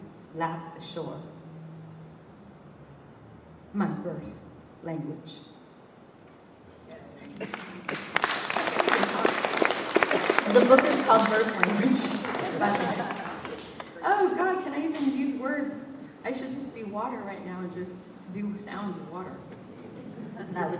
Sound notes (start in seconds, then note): 7.2 applause; 12.3 laughter